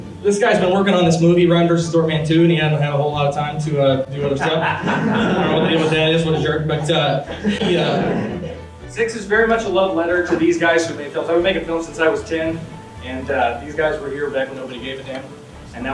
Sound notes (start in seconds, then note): 4.2 laughter